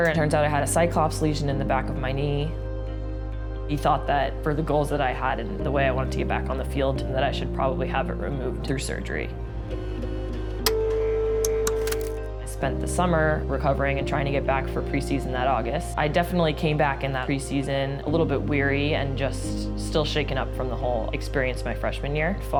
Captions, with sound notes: It turns out I had a Cyclops lesion in the back of my knee. He thought that, for the goals that I had and the way I wanted to get back on the field, that I should probably have it removed through surgery. [BEEPING] I spent the summer recovering and trying to get back for pre-season that August. I definitely came back in that pre-season a little bit weary and just still shaken up from the whole experience my freshman year.